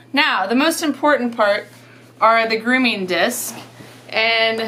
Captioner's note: none